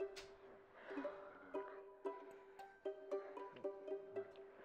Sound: moaning

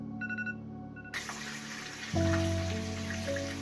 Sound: water running

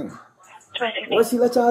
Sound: radio chatter

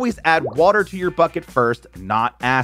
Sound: graphics popping

